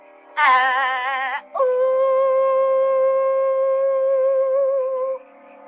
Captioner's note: howling